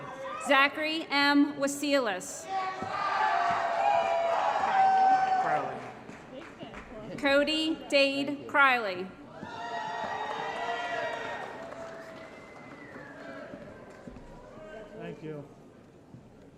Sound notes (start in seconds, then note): 3.1 applause & Cheering; 9.5 applause & Cheering